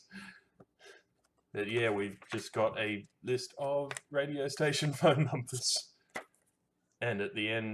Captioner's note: laughs